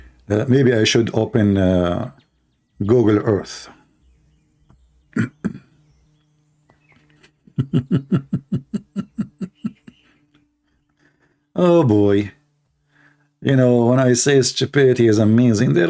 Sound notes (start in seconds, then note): 7.4 Ketawa